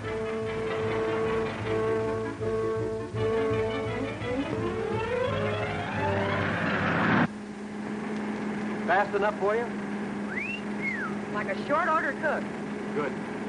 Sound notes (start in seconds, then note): 0.0 dramatic music; 10.2 Betty whistles